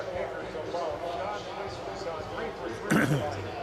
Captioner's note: pa announcement